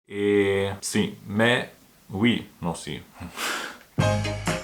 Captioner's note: Spanish